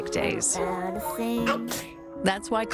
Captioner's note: boy sneezes